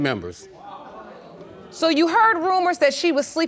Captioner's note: audience gasps